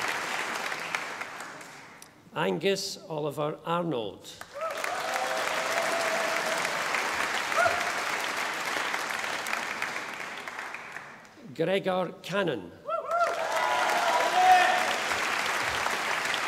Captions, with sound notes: Angus Oliver Arnold. (audience applauding) Gregor Cannon. (audience applauding)